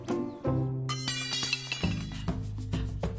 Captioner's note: tools clattering